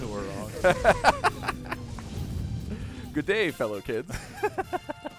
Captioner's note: laughter